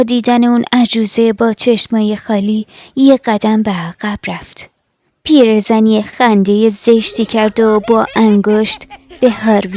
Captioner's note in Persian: خنده